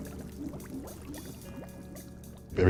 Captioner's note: bong bubbling